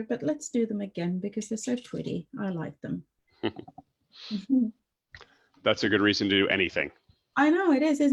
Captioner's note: chuckles